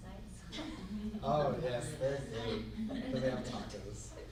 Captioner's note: laughs